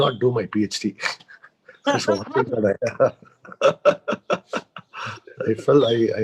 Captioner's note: laughs